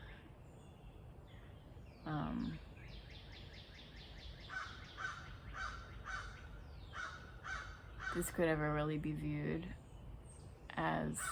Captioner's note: birds sounding